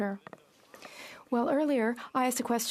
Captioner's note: speaking French